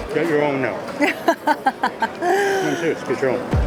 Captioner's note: laughs